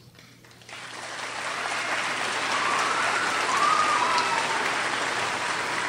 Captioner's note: crowd applauds and cheers